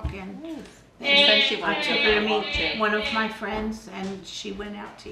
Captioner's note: vocalizing